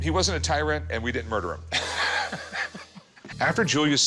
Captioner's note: laughs